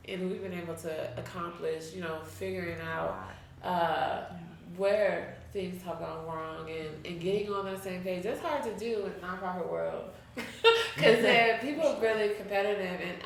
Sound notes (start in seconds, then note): 10.4 chuckles